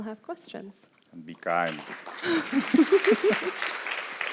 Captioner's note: laughs; applause